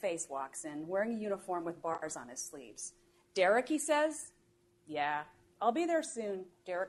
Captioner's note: none